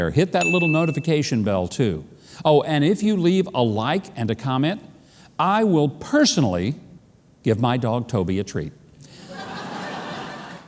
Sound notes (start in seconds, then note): 9.3 audience laughing